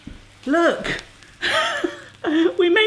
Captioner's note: laughs